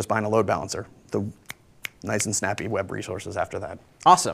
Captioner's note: snaps